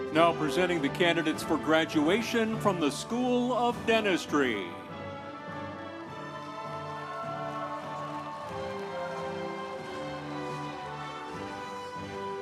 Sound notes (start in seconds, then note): 6.3 instrumental music; 6.3 audience cheering